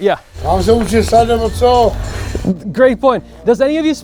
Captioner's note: builder speaking in foreign language